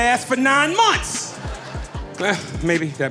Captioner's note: audience laughing